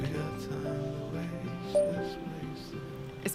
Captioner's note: voice note message sound